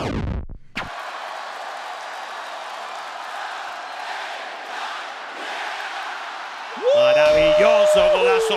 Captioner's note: applause